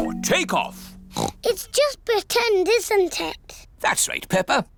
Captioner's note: oinks